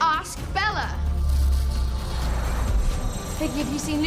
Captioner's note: magical whirring sound